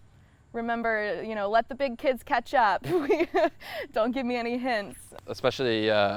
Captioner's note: laughs